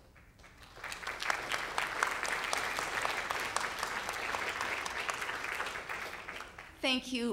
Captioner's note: applause